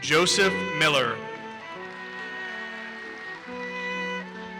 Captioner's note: audience applauses